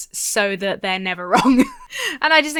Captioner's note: chuckles